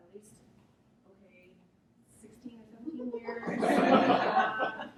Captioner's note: audience laughs